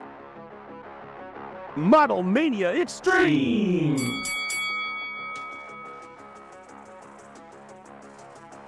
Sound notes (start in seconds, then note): 0.2 upbeat music; 3.9 bell ringing